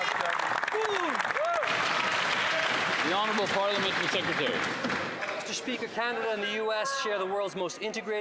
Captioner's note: some Applause